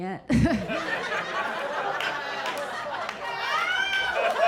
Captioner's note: audience laughing